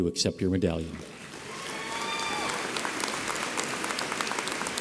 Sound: audience applauds

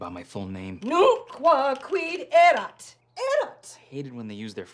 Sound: angrily speaking Latin

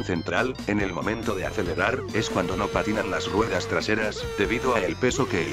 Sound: Gran-Turismo Car Noises

